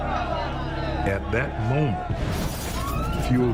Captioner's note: glass breaking